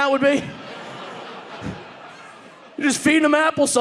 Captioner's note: audience laughing